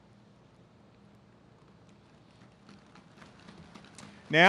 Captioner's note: audience claps